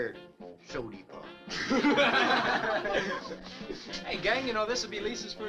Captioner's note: all chuckling